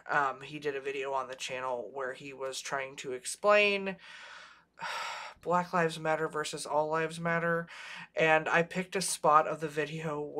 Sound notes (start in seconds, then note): 4.8 sighs